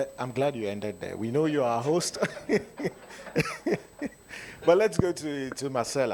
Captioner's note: laughs